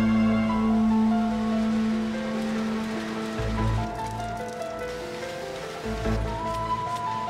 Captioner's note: melodic orchestral music; printing machine whirring